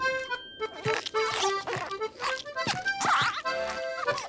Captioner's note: squeaking